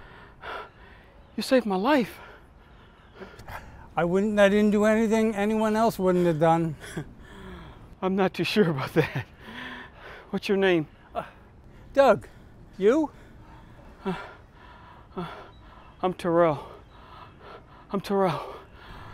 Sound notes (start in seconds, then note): 13.0 Terrell heavily breathing